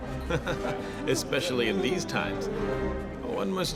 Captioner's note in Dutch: lacht